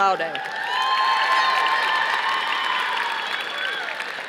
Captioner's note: audience applauding